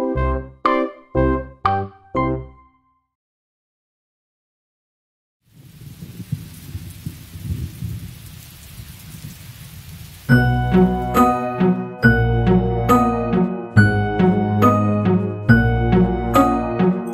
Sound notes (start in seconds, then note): 5.4 rain splashing and distant thunder; 10.3 playful music